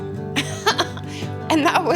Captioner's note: laughs